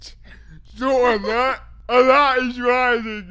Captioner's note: laughs